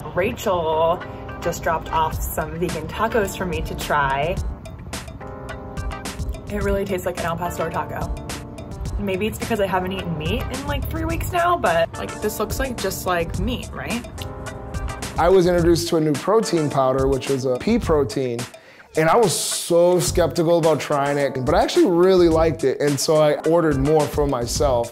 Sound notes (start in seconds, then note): 4.3 upbeat music; 14.1 chewing